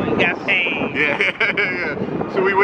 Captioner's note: laughs